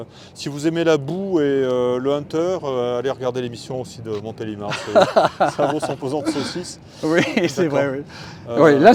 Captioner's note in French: rires